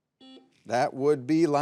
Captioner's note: buzzer buzzing